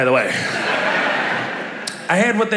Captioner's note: laughter